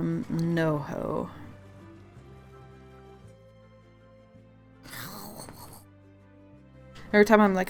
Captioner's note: annoyed gurgle sound